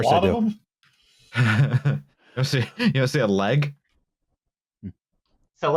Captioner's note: chuckles